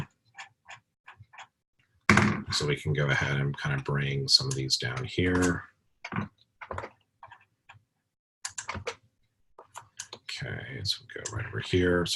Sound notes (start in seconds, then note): 6.0 typing Sounds